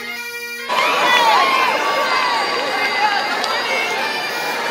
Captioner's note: crowd chattering